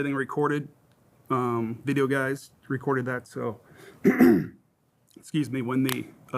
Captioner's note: coughs